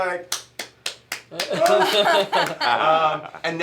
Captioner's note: clapping; laughter